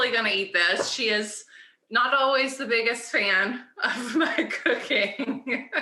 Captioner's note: laughs